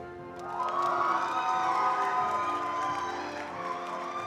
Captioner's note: attendees applauding